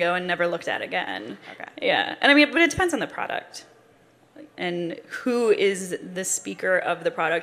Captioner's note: none